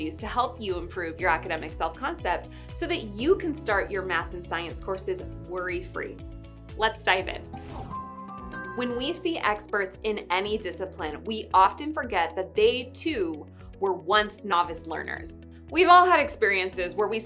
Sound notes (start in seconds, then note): 7.5 air whooshing; 7.6 upbeat music continues